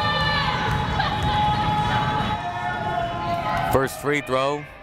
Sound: crowd making noise

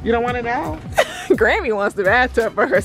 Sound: laughs

